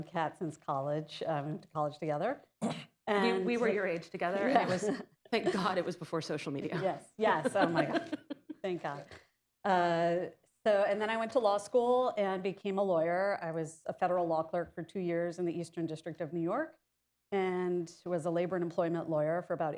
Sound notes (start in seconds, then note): 7.4 laughter